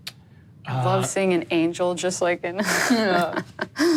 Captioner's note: laughs